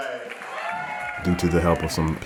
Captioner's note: audience cheering